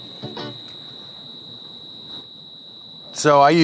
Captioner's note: crickets chirping